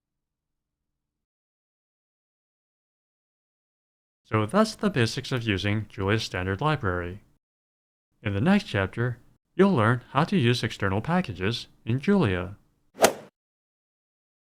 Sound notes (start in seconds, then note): 13.0 swoosh